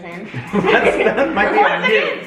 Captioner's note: family chuckles